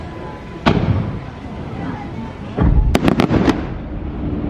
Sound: fireworks popping

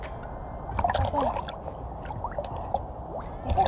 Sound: deep breathing

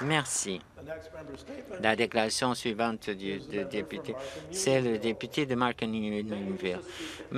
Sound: applause

